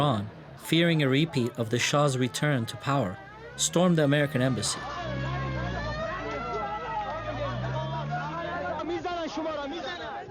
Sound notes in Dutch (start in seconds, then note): 4.7 sirenes rinkelen; 6.0 spreekt in een vreemde taal